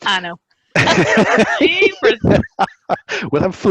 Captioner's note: laughs